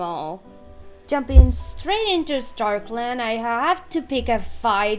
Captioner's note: mic bump